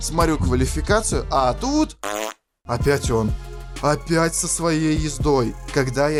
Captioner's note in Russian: пук